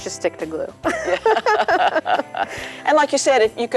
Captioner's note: laughing